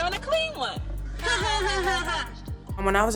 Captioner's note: laugh